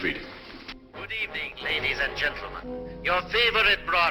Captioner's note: radio broadcast